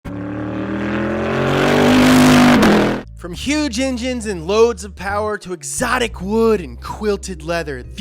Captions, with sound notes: (engine revving) - From huge engines and loads of power to exotic wood and quilted leather,